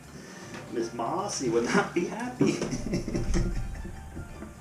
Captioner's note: laughs